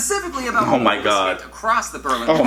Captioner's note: muffled laughter